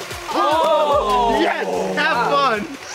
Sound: electronic music; whooping and yelling

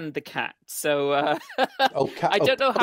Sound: laughs

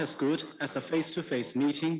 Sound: speaking Foreign Language

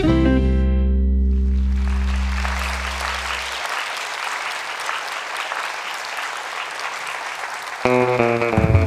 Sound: applause

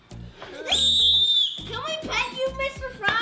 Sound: screaming

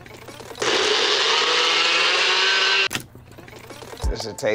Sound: blender whirs

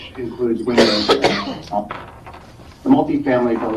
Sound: member coughing

